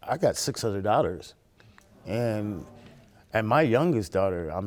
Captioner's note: audience gasps